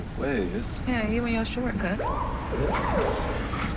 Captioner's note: sirens